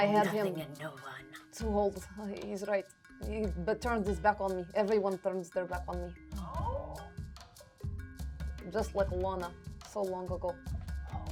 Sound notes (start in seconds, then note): none